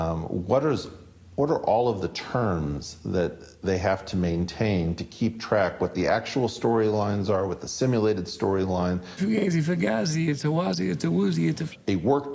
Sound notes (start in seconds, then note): none